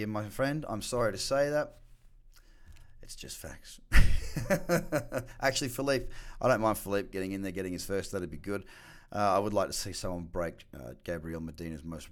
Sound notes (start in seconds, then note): 4.0 laughing